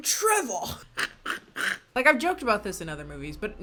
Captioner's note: laughs